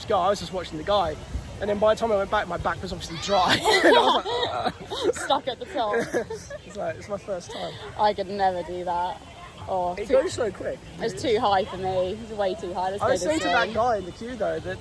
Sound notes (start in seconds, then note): 3.4 laughter